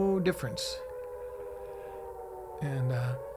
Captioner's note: alarm blaring